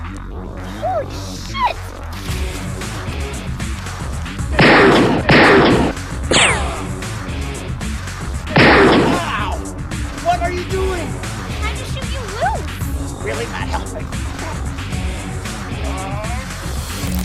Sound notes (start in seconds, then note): 4.5 gun shots; 4.5 richochet